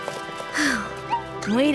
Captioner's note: big sigh